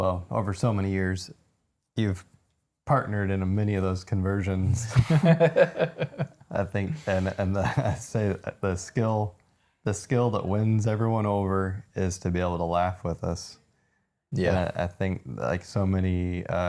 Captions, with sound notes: Well, over so many years, you've partnered in many of those conversions. (both laughing) I think, and I say the skill that wins everyone over is to be able to laugh with us. Yeah. I think like so many,